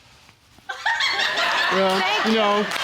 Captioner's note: audience member laughing